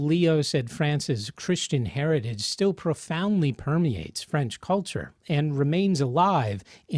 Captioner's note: French